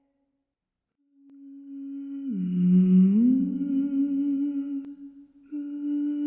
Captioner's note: female voice humming